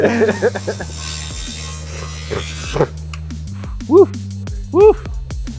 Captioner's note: laser whizzing